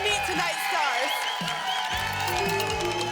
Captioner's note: applause and cheering